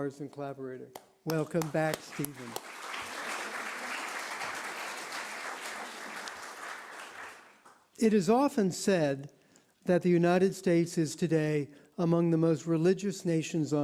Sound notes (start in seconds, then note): 6.8 applause